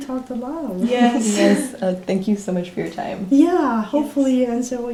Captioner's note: laughs